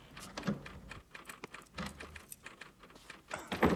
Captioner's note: type machine noise